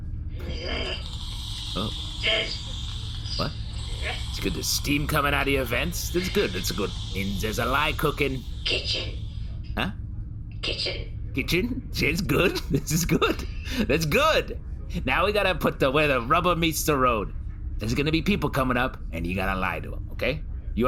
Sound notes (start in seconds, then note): 11.4 laughing